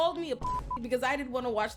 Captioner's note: beep